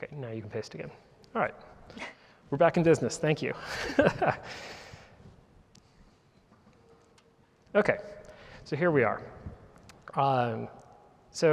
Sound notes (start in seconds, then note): 3.6 laughs